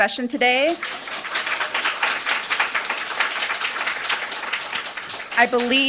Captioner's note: applause